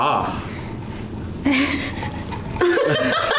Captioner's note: crickets; guilty laughter